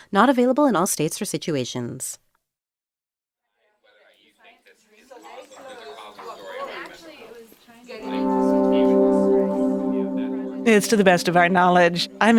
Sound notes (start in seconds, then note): 4.7 people chattering; 8.5 somber tone